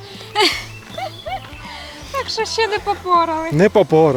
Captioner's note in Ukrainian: сміх